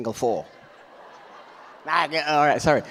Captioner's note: audience laughs